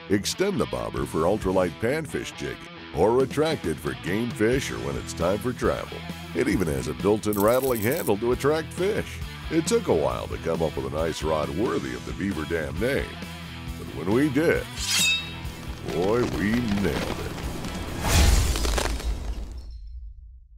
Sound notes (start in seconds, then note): 14.6 sword slicing; 17.6 ice crackling